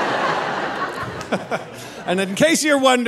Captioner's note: audience laughing; laughing